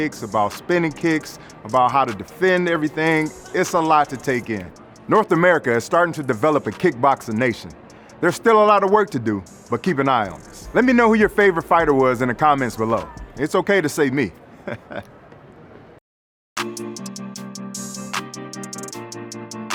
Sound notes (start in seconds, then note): 14.6 chuckling; 16.6 chill lo-fi music